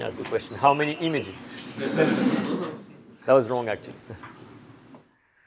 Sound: laughter; laughter

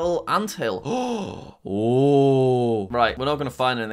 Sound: inhales sharply

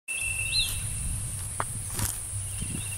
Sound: footsteps

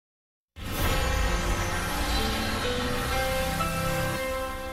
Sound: astonishing chime plays

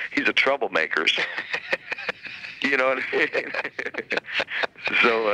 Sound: both laughing

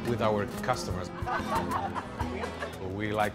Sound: laughter

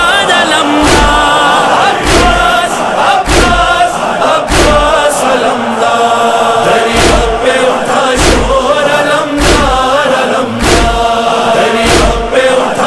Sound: chanting

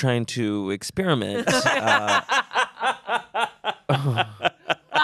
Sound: everyone laughs

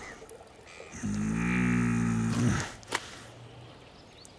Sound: growls

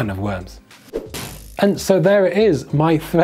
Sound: air whooshing

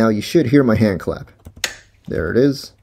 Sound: hand clap

